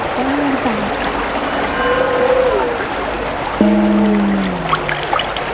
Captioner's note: scraping sound, popping